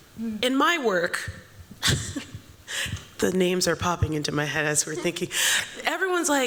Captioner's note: chuckles